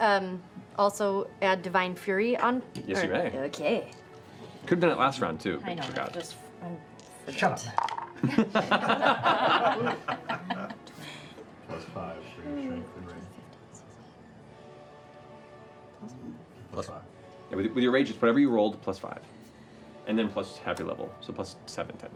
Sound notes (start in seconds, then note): 8.2 laughter